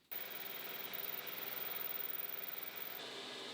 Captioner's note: tool humming